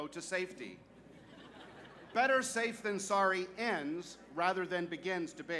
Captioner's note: laughter